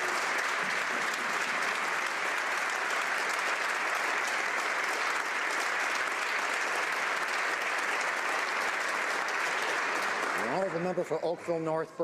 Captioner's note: applause